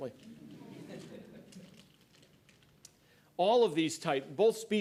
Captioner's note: laughter